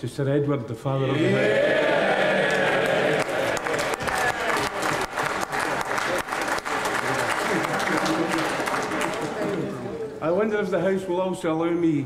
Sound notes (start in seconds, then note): 1.8 cheering; 4.2 applause